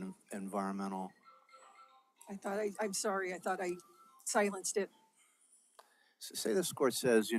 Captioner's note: Counsel's cellphone rings